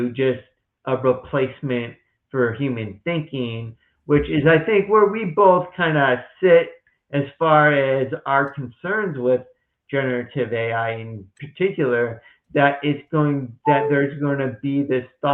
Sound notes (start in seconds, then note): 13.6 beep of device in background